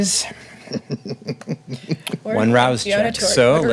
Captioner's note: laughing